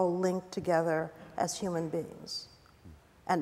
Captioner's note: none